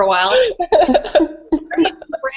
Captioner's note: laughter